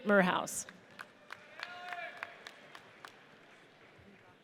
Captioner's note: audience cheers